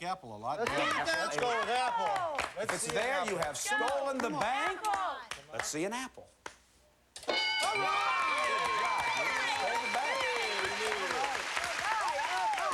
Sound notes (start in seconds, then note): 7.6 cheers and applause